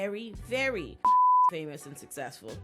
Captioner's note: beep